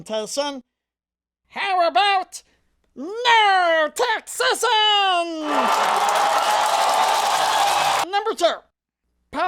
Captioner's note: applause